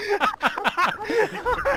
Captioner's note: collective Laughter